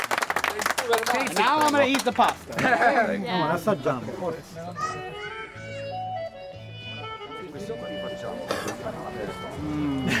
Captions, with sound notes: (crowd applauding) - Now I'm gonna eat the pasta. (speaking in foreign language)